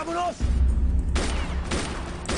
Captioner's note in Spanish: Disparos